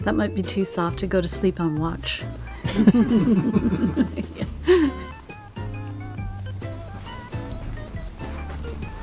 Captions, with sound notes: That might be too soft to go to sleep on watch. (all laughing)